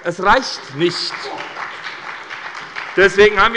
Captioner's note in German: Beifall bei der SPD